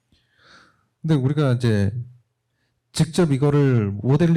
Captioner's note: speaking korean